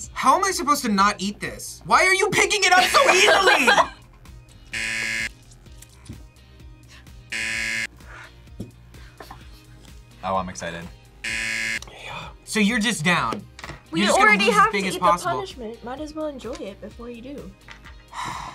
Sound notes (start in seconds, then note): 2.7 laughs; 3.1 buzzer; 7.3 buzzer; 11.2 buzzer; 18.3 sighs